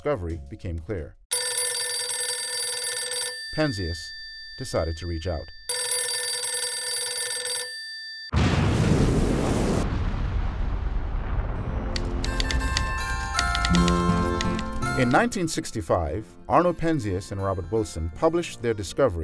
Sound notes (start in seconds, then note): 1.3 phone Ringing; 8.3 explosion